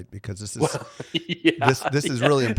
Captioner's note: laughing